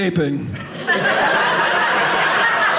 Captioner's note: audience laughing